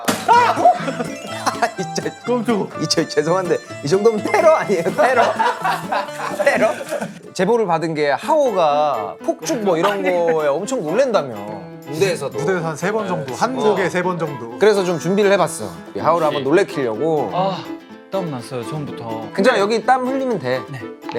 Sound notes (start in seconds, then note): 4.8 the confetti pops loudly